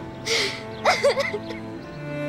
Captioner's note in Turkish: Mavi ağlıyor